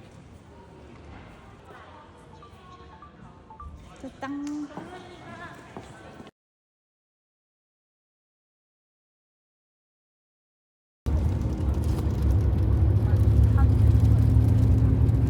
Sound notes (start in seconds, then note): 11.0 train